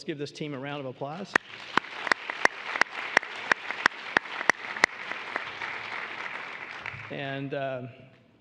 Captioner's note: applause